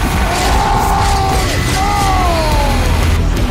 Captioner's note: sounds of depression